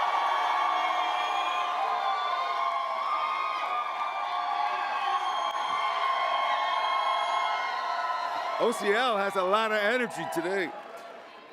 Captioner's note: loud cheering